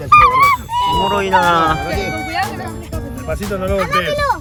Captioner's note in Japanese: 叫び声